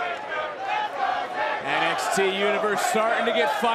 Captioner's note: crowd chanting